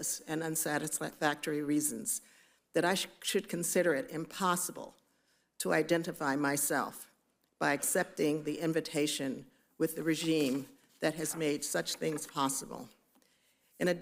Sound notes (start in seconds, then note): none